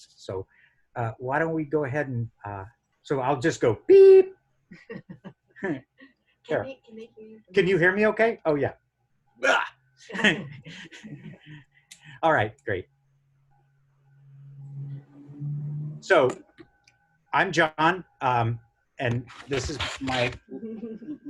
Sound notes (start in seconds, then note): 10.1 grunts and laughs